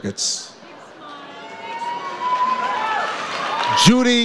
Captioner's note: audience cheers